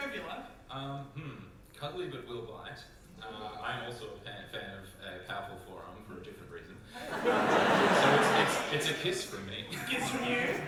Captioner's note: audience laughter